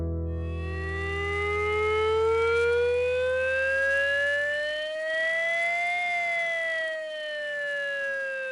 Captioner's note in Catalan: so de sirena